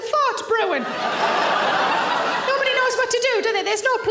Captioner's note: audience laughing loudly